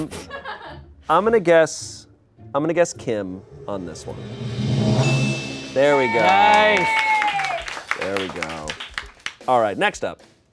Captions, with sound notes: I'm gonna guess, I'm gonna guess Kim on this one. (bell dings) There we go. - Nice. (audience applauds) - There we go. Alright, next up.